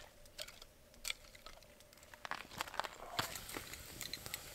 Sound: ice rattling

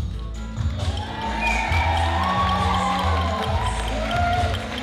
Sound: applause

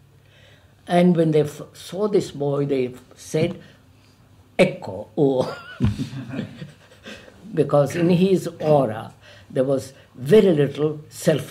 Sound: laughs

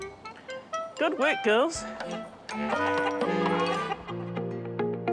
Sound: chickens cluck; light music

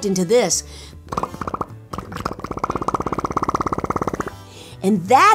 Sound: Nancy imitates motor sputtering

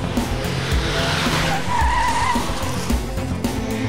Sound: tires screech

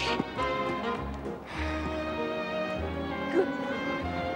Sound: sighs

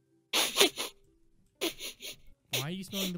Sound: sniffing

